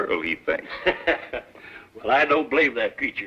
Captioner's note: laughs